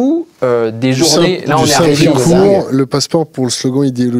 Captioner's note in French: brouhaha